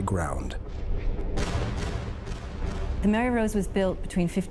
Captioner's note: booming